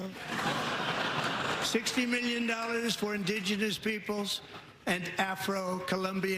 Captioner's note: laughter